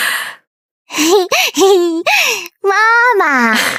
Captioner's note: giggles